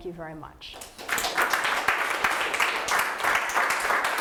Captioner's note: audience applause